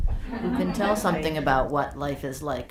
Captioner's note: audience laughing